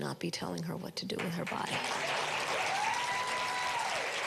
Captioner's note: applaus